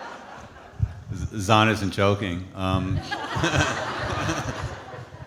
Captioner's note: laughs; audience laughing